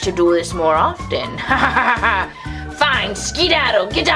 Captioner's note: laughs